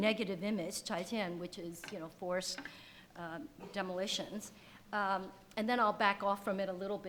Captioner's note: speaks foreign language